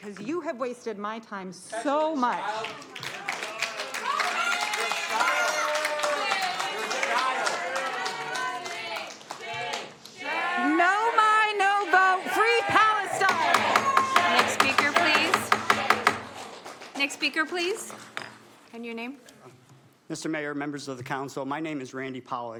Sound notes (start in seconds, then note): 8.7 applause